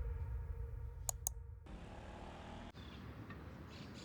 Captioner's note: mouse clicks; birds chirp